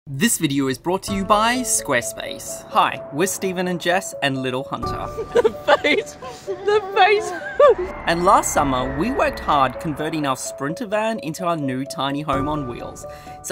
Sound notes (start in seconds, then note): 2.8 placid music; 5.1 laughs